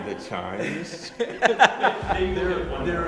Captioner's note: laughter